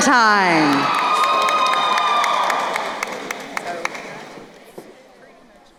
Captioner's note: crowd cheering and applauding